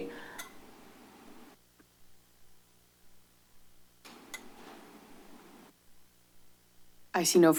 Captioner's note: silence